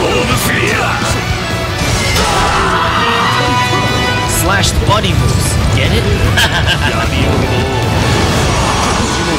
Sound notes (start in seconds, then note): 2.1 KO Scream; 6.0 laughs